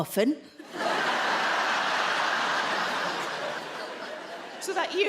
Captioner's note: audience laughing